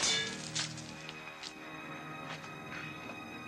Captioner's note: spear clangs